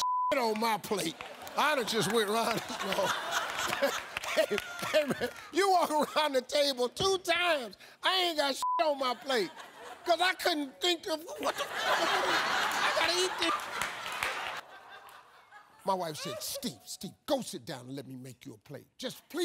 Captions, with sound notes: I'd have just (drowned out by audience laughing), y'all. You walk around the table two times. I ain't got (beep) on my plate! Cause I couldn't think of, "What the is this? "I gotta eat that!" My wife said, "Steve, Steve, go sit down "and let me make you a plate. "Just please don't embarrass me in front of."